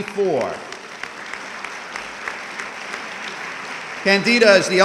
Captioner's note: audience clapping